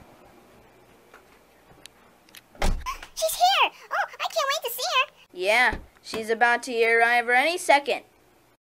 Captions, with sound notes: [car door closes] [gasps] She's here! I can't wait to see her! Yeah, she's about to arrive here any second.